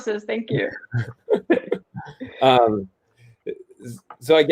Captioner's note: laughter